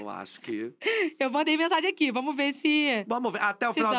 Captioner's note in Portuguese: rindo